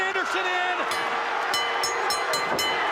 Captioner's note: bell ringing; crowd cheering